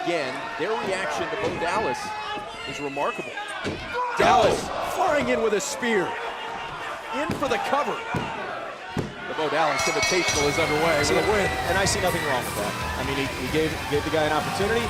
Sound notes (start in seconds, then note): 8.6 crowd cheering; 9.7 bell ringing